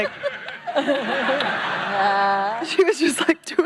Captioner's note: audience laughing